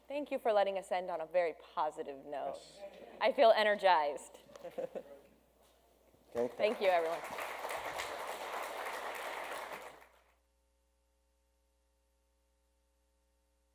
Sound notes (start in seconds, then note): 6.3 audience claps